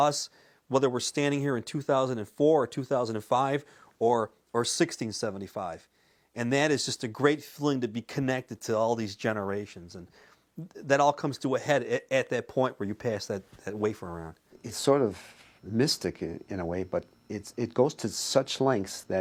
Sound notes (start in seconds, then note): none